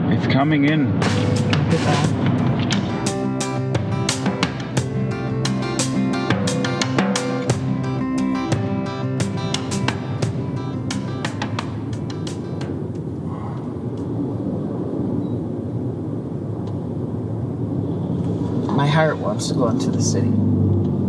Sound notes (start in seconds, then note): 3.8 upbeat music; 12.4 traffic sounds